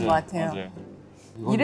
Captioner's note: phew